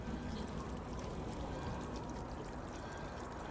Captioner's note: sounds of trickling water